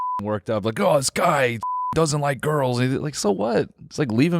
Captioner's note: beep; beep